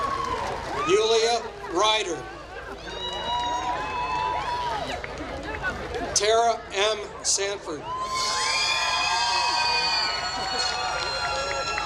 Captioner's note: applause; applause